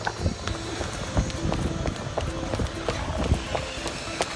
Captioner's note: heels clicking; guitar music